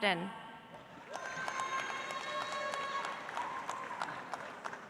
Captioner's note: audience applauds